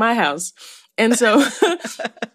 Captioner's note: laughter